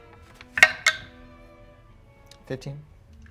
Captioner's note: die rolls